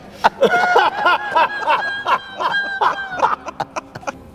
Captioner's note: all laughing